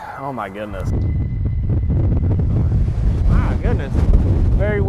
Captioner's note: wind whistling